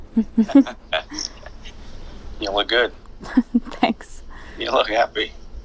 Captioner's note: laughs